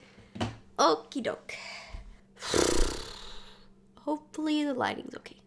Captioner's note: sighs